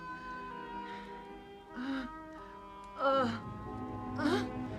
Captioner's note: Mengerang